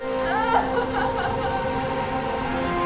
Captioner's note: crying; dramatic music